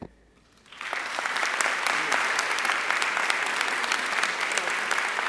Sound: audience applauding

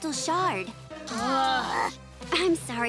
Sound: groaning

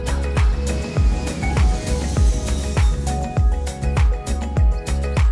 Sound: airplane engine roaring

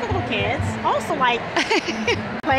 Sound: laughing

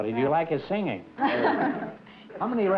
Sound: laughter

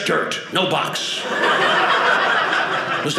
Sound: audience laughing

